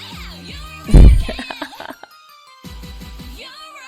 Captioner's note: laughs